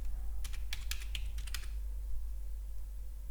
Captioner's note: keys typing